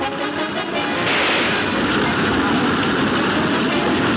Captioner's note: gunshots banging